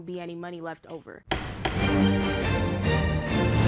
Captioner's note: gavel banging; lively music